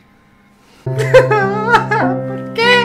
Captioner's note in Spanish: llanto